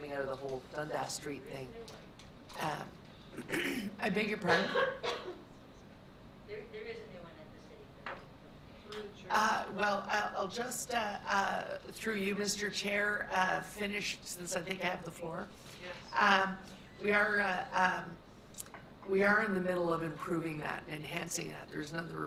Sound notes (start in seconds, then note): 3.3 clears throat; 4.4 coughing